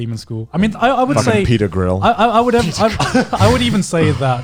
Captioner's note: laughs